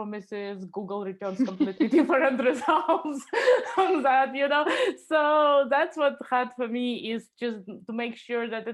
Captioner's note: laughing